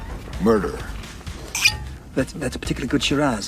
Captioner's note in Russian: звунь